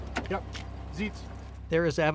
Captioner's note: officer calling dog out of car